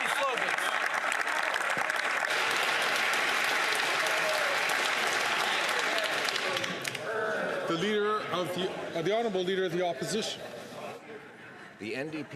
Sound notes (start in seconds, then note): 1.6 some Applause